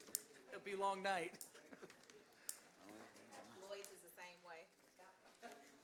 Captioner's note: laughter